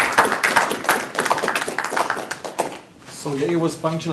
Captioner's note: audience applause